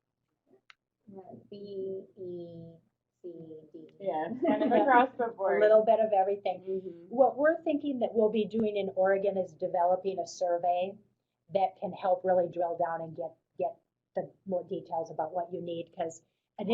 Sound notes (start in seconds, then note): 1.9 voiceover